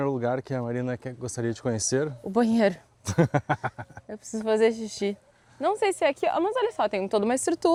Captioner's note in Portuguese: risadas